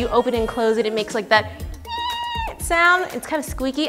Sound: squeaks

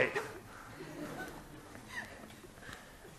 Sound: laughing

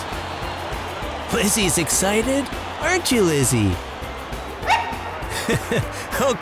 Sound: Lizzy barks

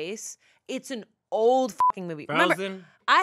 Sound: beep

